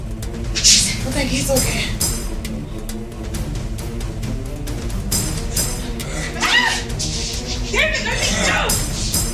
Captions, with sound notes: I think he’s okay. (Screams) David, let me go.